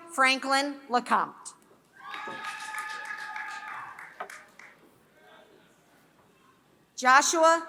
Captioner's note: applause